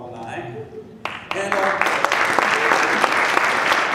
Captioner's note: applause